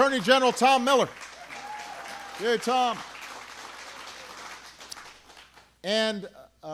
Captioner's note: applause